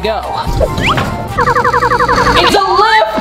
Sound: electronic beeping

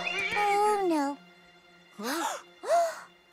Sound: all gasp

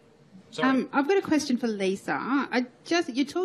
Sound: voiceover

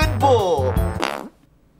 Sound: fart

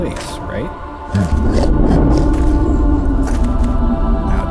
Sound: grunting

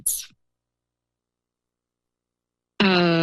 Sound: pause

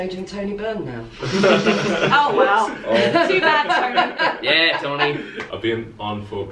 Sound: laughter

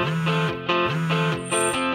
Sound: telephone vibrates

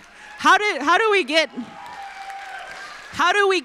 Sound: applause

